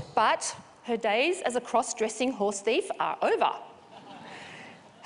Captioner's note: laughter